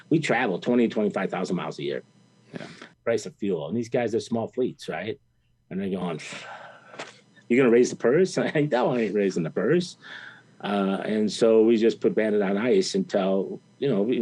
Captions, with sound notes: We traveled 20, 25,000 miles a year. - Yeah. - Price of fuel and these guys are small fleets, right? And they're going, "You gonna raise the purse"? (laughs) No, I ain't raising the purse. And so, we just put Bandit on ice until